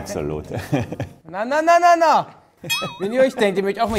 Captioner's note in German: Boing